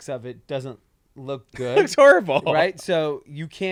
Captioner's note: laughs